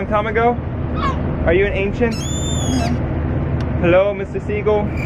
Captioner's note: bird squawking